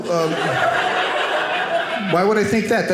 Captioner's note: audience laughing